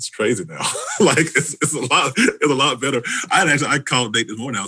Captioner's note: chuckles